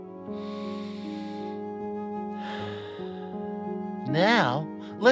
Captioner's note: breathes deeply